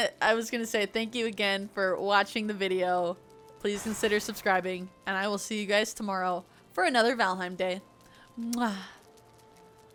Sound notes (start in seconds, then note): 8.4 kiss